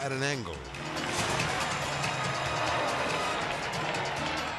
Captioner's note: edgy dramatic music; cycle buzzing